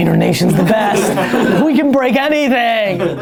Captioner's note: laughter